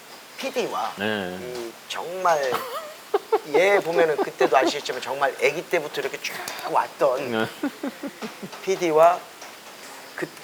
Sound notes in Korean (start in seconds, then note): 2.5 웃음